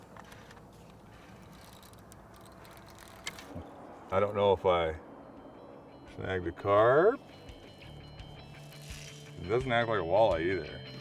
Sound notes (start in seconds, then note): 4.3 reel cranking